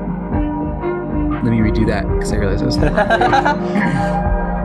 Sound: laughs; clears throat; chill music

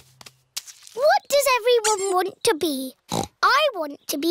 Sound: snorts

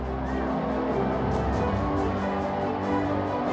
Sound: crowd cheers

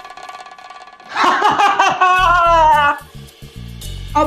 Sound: laughing

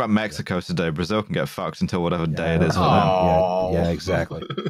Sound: chuckles

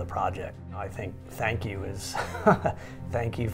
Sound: laughs

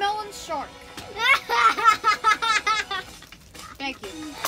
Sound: chuckles

